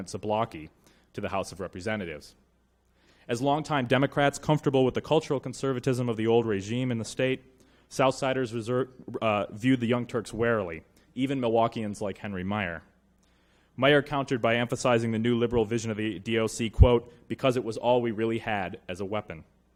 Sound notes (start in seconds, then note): none